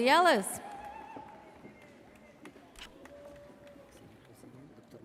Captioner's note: audience cheers